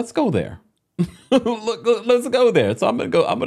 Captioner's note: laughing